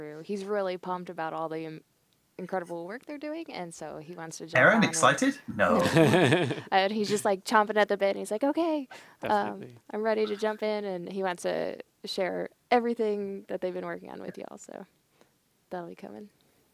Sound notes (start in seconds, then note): 5.6 all Laughing